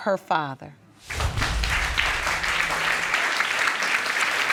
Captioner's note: audience clapping